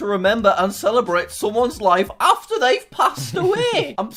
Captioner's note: laughs